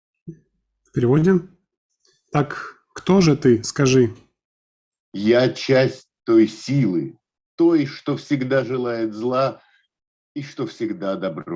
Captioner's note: reading in Russian